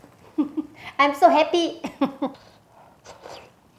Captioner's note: giggles